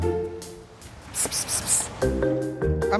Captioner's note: Nanette hissing